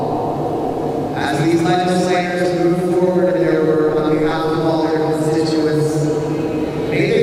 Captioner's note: shouting/singing